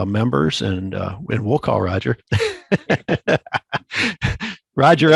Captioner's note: laughs